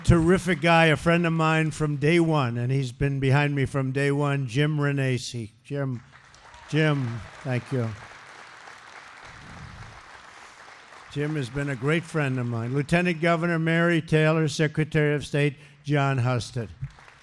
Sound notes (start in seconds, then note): 12.9 applause; 16.6 applause